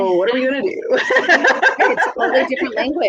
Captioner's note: laughs